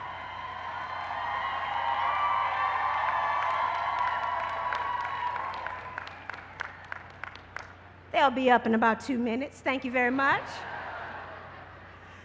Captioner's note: cheers and applause